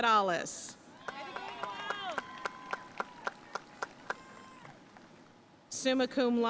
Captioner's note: audience cheering and applauding